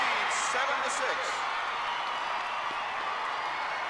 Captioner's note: crowd cheering